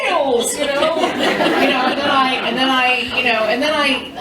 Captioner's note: laughter